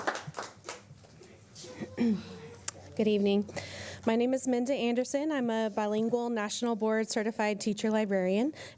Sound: applause

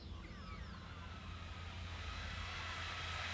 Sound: distant power tool

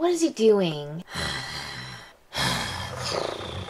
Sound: growls

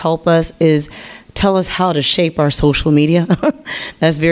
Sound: laughs

